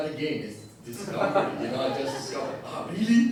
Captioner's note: audience laughter